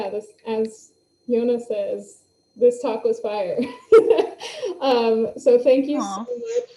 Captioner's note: laughs